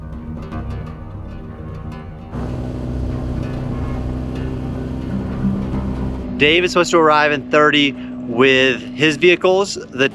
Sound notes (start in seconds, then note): 2.3 engine revving